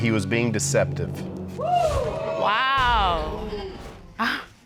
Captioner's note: audience exclaiming; chuckles